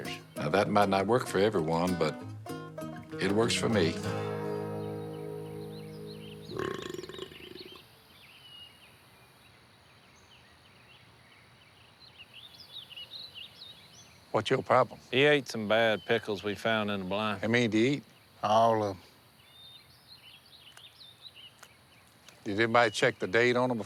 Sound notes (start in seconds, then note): 6.4 burp